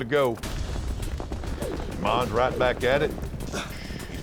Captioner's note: rope swirling